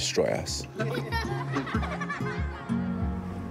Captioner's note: children laugh